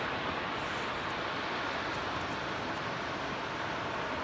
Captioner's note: roaring ocean waves